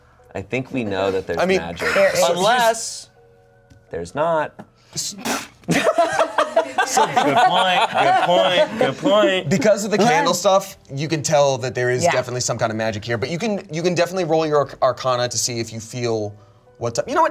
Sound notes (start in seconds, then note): 5.7 everyone laughs